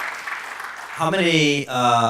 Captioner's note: applause